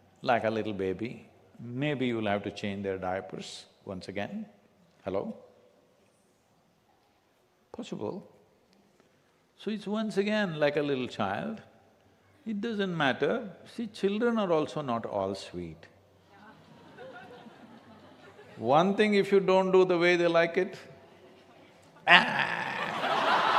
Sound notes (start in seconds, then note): 16.4 few laugh; 22.0 laughter